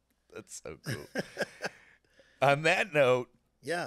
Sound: laughing

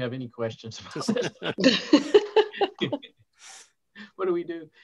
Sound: all chuckling

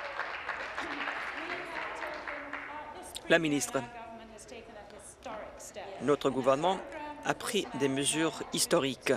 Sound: applause

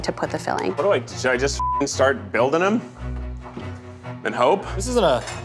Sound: beep

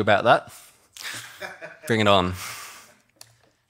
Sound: audience laughing

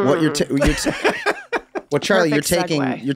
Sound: laughs

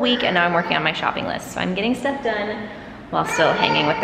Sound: kids playing

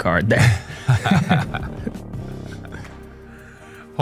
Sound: laughs

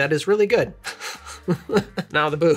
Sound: laughter

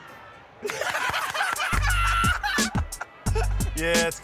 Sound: laughter

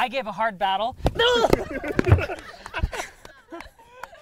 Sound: yelps

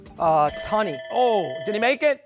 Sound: buzzer

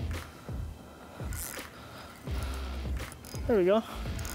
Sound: reel whirring

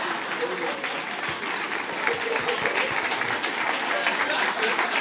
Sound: applause

